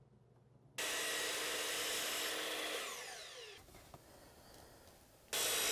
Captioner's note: high-speed saw whirring